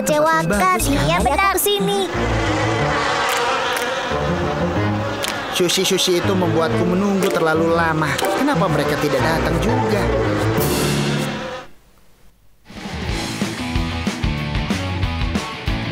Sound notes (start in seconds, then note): 1.7 flies buzzing; 4.3 sad music